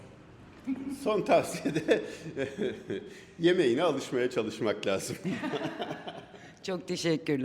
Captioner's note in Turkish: kahkaha